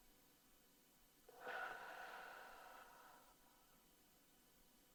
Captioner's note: slow sighing